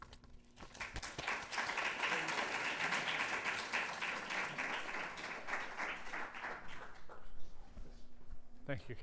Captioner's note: applause